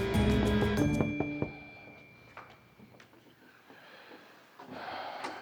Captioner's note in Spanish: Toques en la puerta